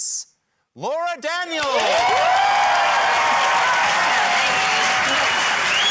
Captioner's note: cheering, applause, whistling